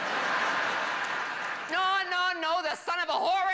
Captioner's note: laughter